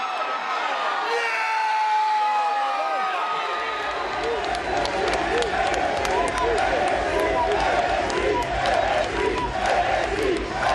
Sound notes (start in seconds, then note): 5.5 people chatter; 8.0 crowd chants